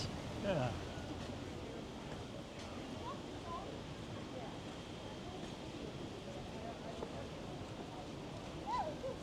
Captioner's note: indistinct chatter